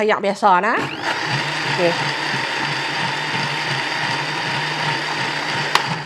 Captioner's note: sound of blender